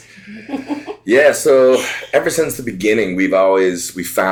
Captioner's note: laughs